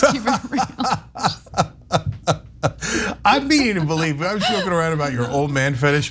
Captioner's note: laugh